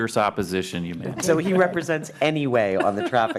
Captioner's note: laughter